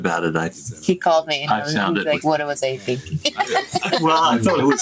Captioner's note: laughs